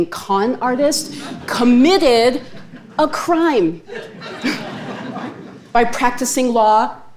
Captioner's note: chuckles